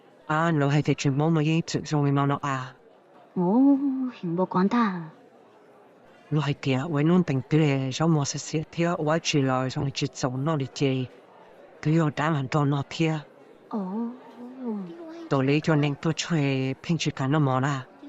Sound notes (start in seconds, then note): none